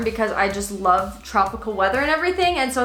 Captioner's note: none